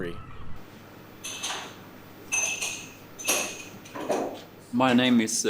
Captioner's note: glasses clinking